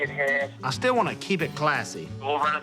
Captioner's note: on phone